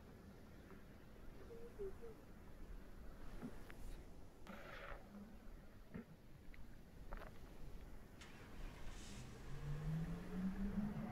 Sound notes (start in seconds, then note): 8.2 engine reviving